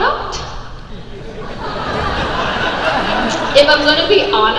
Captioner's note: crowd laughs